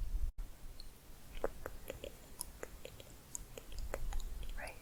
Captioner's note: tongue clicking